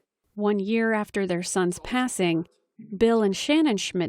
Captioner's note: voice-over